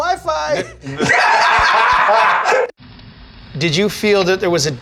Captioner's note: all laugh